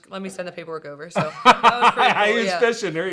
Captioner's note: laughing